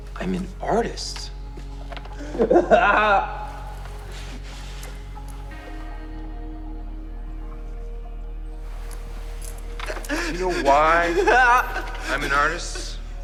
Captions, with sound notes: - I'm an artist. (crying) (dramatic ambient music) You know why I'm an artist?